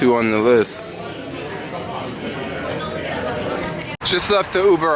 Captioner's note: people chattering